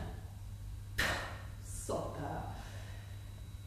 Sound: scoffs

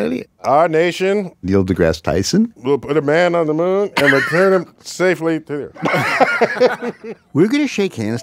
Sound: laughs

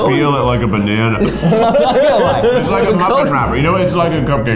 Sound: laughing

